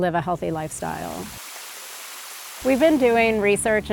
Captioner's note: water spraying